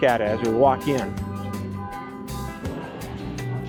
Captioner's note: honking and car alarm in parking lot